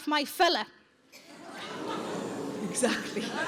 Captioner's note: audience laughs; audience groans